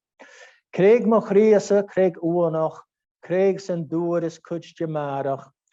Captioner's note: speaking in Gaelic language